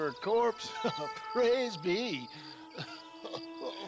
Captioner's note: laugh